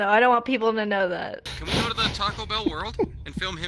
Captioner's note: laughing